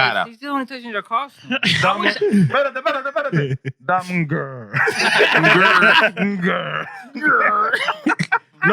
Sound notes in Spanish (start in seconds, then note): 2.3 Hablando en idioma extranjero; 2.3 Riendo